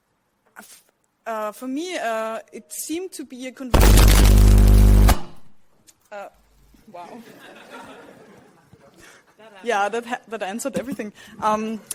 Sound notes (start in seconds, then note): 3.7 mic static; 7.3 audience chuckles